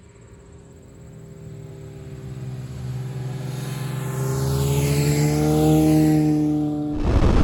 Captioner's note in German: Motorradmotoren nähern sich